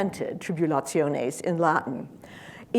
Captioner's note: speaking in foreign language